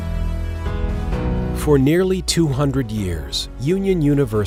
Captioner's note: voiceover